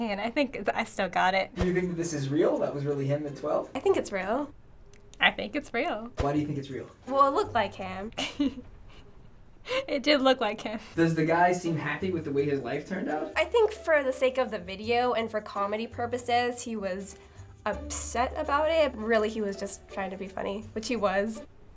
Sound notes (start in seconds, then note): 7.5 giggling